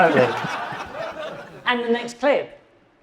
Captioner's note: audience laughing